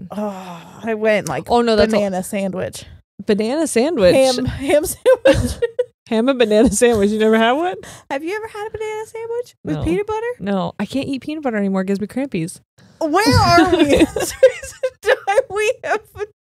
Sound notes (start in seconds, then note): 5.0 giggles; 13.2 laughs